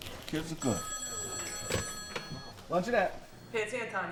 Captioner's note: phone ringing